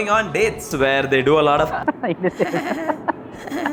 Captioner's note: hehehe